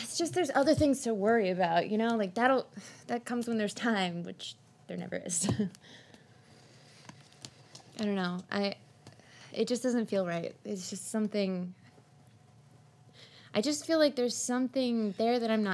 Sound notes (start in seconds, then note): none